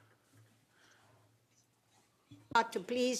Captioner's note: speaking French